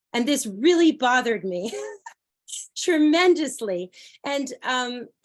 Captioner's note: laughter